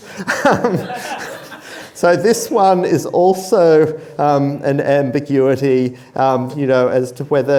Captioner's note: chuckles